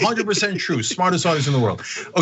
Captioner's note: laugh